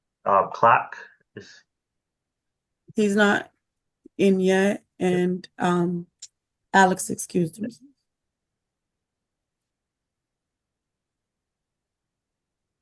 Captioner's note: off mic